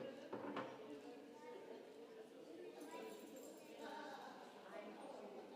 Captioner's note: congregation chattering